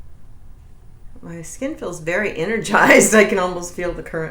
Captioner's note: laughs